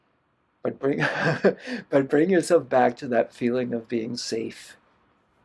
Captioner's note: laughter